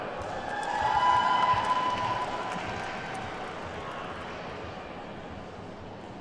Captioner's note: attendees whooping and clapping